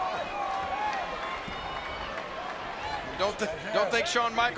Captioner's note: audience chattering